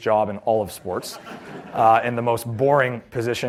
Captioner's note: laughter